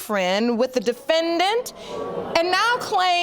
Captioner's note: audience groaning